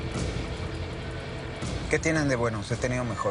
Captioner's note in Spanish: La otra línea timbra